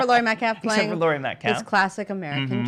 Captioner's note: laughs